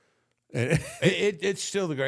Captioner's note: The Undertaker chuckles